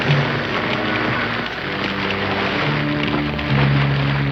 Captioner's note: fire crackling